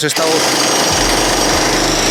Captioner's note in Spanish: Edit: Suena una percutora